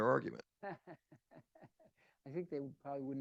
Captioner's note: chuckles